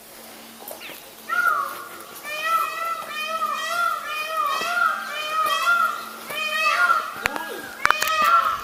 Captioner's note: peacock chirping